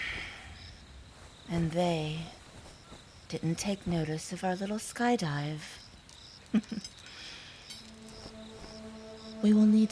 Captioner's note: soft chuckle